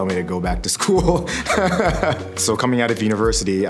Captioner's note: laughing